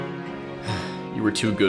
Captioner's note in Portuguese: Suspiro